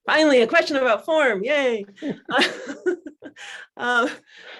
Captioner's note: laughs